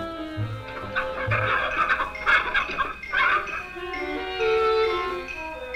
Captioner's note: clucking